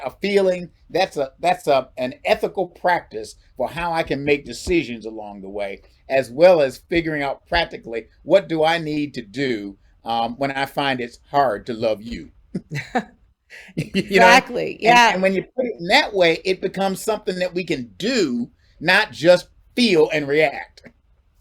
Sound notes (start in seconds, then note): 12.4 chuckles